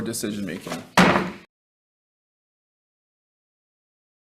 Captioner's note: loud thump